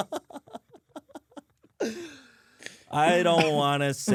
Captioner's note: laughs